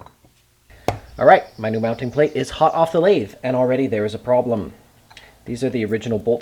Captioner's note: ponk